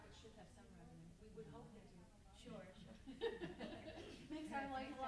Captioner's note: laughs